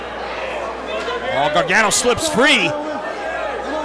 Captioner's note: applause